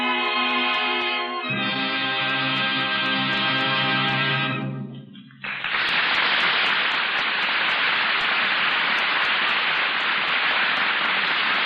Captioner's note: dramatic music; audience applauding